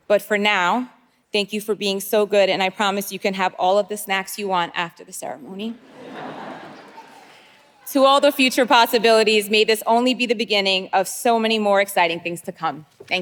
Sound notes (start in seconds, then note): 5.8 audience laughing